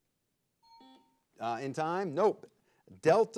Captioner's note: bell chimes